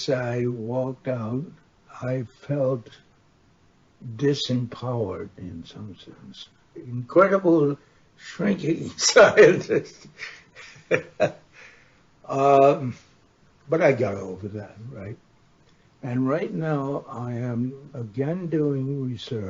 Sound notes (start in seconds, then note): 12.3 chuckles